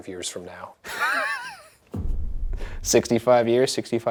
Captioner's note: Ryan laughs